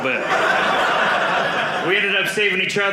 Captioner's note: audience laughing